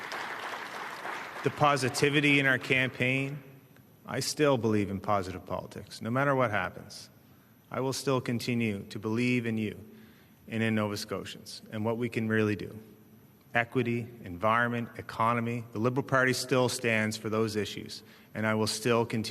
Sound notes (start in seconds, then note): 3.3 applause